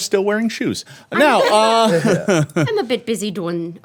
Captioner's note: laughing